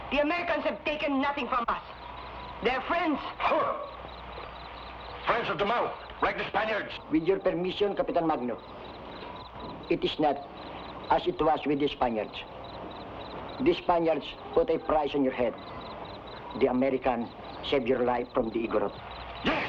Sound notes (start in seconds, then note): 3.3 Magno scoffs